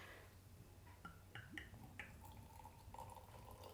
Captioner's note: liquid pouring